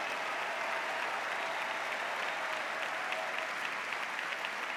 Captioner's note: applause